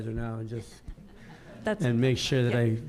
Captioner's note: audience laughing